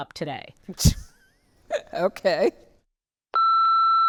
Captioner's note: laughing